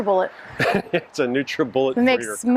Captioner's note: laughs